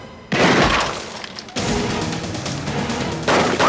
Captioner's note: gunshots blast